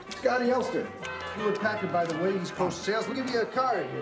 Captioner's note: none